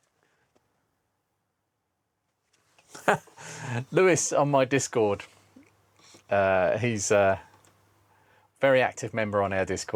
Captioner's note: laughing